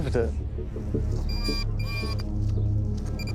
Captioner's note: screeching sound